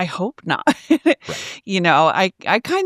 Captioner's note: laughs